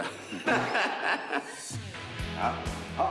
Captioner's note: ㅋㅋㅋㅋㅋㅋㅋㅋㅋㅋ